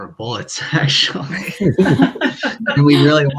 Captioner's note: laughing